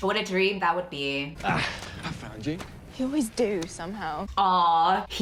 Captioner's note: sighs